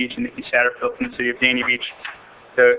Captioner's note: audio interrupted by interference